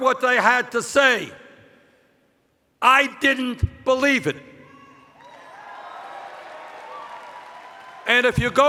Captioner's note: cheers